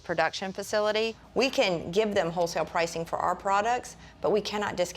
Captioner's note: none